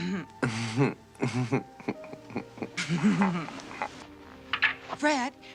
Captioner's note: they laugh